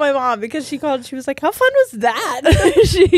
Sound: both laughing

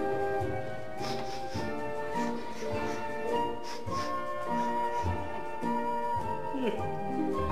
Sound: sniffing

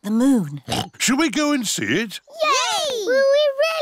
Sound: oinks

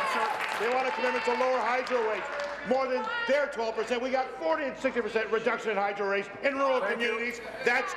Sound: applause

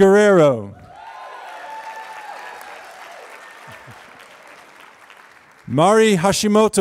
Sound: applause

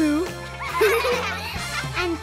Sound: giggling

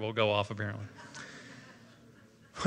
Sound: laughter

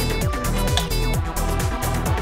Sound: clicks

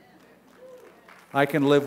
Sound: applause

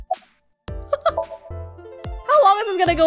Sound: chuckles

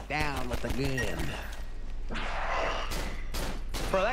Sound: gunshots

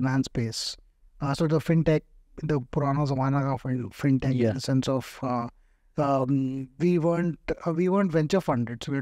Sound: speaks In Hindi

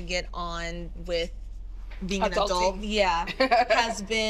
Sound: laughs

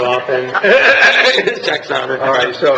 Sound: laughing

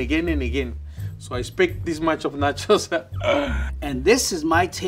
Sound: laughs

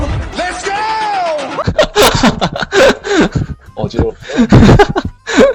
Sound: laughter

